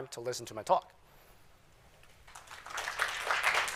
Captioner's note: applause